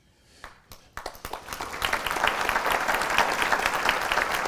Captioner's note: applause